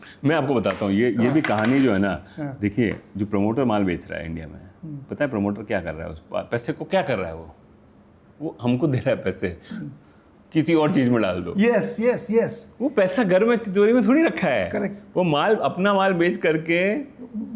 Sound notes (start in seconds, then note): 9.7 sound of clearing throat